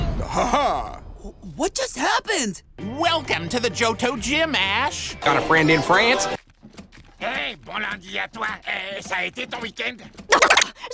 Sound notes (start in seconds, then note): 5.2 banjo music; 6.3 squishy footsteps; 10.3 rapid loop of disgust in French